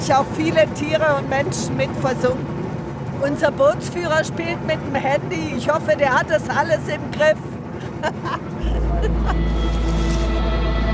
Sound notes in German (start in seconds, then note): 7.7 Lachen; 8.7 Abenteuerliche Musik